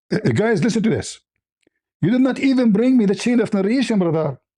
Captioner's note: laughter